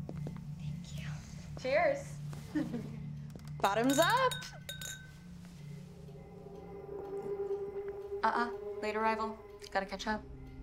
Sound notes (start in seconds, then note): 2.5 Queens chuckle